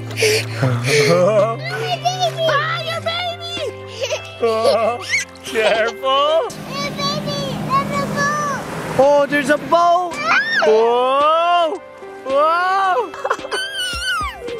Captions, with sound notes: - No my baby! - Ah your baby! [giggling] - Careful! - Hey baby, there's a boat. - Oh there's a boat! Whoa! Whoa!